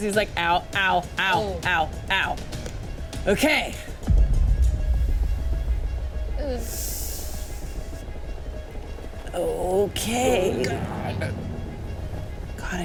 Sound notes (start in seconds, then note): 4.4 suspenseful music; 6.9 inhales